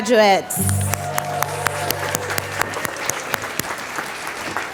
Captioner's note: applause